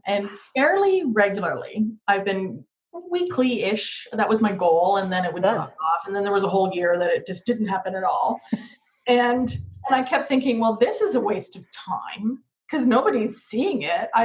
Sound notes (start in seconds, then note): 8.6 laughing